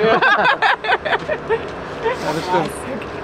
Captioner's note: laughter